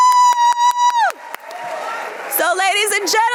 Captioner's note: audience cheering